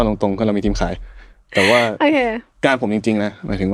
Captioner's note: laughs